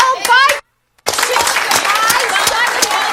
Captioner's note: audience clapping